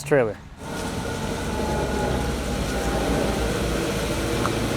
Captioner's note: fork truck motor humming